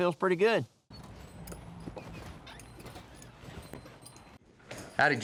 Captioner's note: door opens